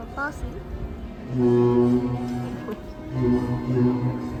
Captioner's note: honk honk